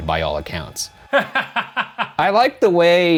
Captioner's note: laughing